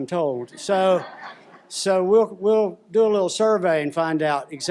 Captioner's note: laughter